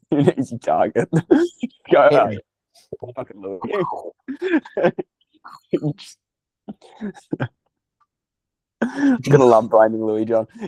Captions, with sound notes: An easy target. (Laughing) You're gonna love blaming Louis-John.